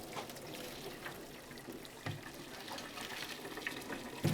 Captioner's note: water gurgling